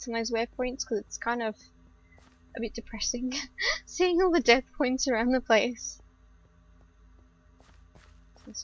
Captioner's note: laughs